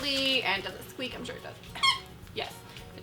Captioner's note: squeaking